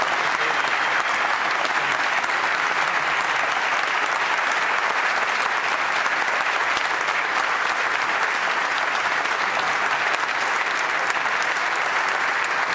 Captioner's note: applause